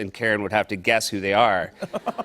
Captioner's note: laughter